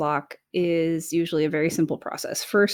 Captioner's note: none